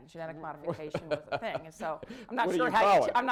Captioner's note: laughter